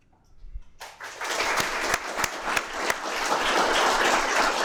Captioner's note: audience clapping